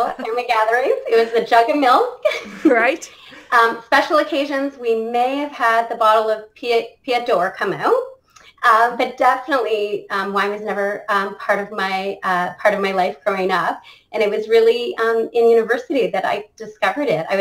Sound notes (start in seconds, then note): 2.2 laughs